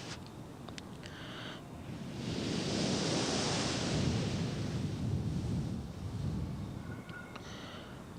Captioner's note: mother blowing into the micro; mother blowing into the micro